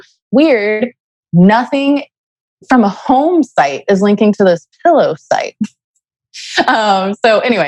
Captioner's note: laughs